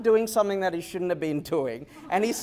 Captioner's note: laughter